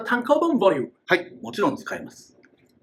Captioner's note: speaking Japanese